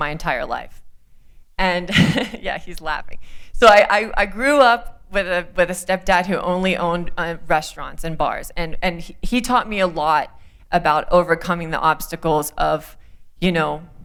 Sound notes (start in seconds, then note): 1.9 laughter